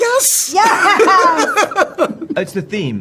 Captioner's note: laughter